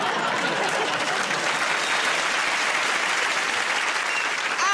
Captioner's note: applause